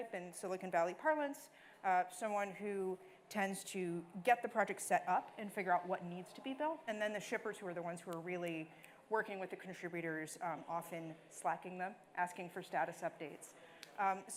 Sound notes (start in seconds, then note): none